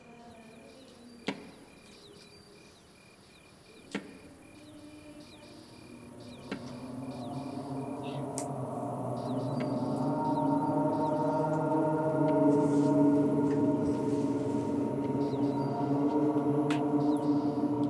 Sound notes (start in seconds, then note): 1.2 sound of walking cane